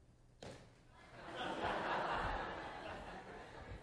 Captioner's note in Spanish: clase ríe